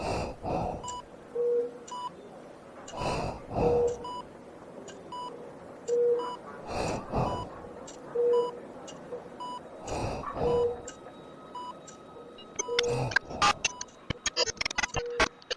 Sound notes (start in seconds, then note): 1.4 beeping continues; 2.9 heavy breathing continues; 6.6 heavy breathing and beeping continues; 12.3 glitching sounds